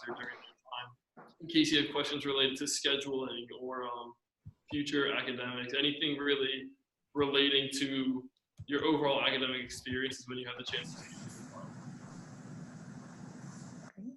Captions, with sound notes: during that time in case you had questions related to scheduling or future academics, anything really relating to your overall academic experience is when you have the chance to (murmurs).